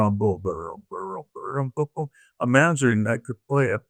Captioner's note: imitating trombone